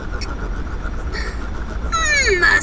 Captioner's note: Ash gasps in "realization"